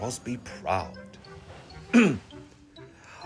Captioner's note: clears throat